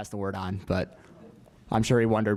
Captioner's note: laugh